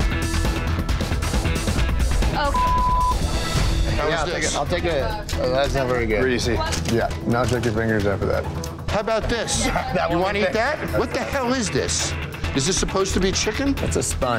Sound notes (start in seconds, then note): 2.4 beep